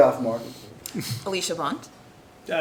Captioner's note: laughs